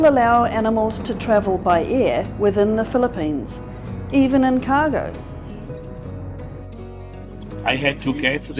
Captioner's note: commercial plane noise